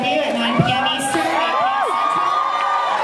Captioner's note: cheers